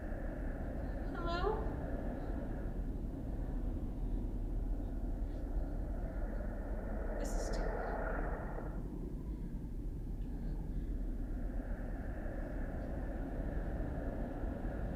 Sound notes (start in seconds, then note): 10.7 wind howling